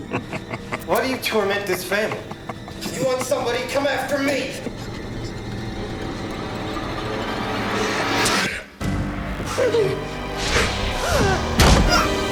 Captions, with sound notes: - Why do you torment this family? If you want somebody, come after me! (spits) (gasps and yelps) (gasps and yelps)